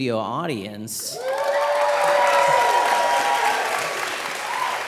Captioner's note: audience cheering